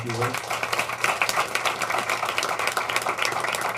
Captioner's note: applause